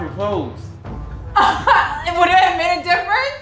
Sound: laughs

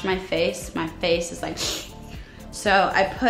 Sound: sucking air

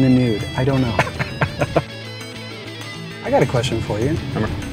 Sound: chuckles

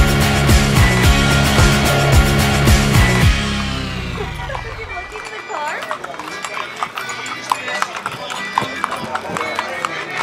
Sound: car radio and horse shoes on pavement

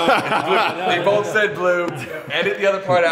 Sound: laughter

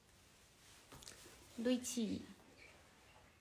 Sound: japanese

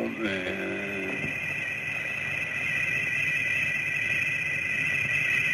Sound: metallic whistling

